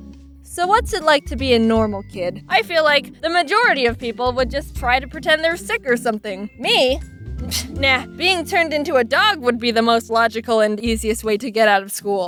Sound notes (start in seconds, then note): 7.3 pfft